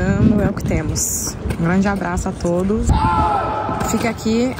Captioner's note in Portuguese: homens gritando